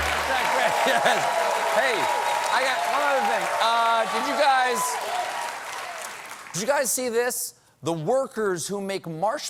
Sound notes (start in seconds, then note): 5.3 cheers and applause